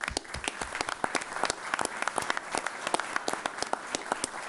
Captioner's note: all applauding